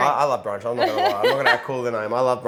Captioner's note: chuckles